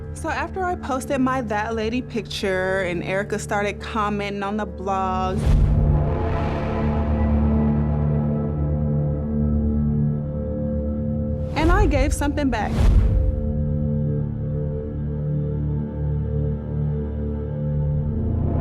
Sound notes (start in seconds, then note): 5.4 transition whooshes; 5.5 tense droning music; 12.5 transitions whooshing; 15.2 tense droning music